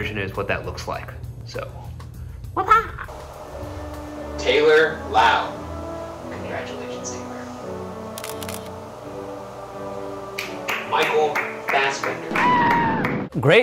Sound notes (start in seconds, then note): 8.1 camera shutter snapping; 12.1 clapping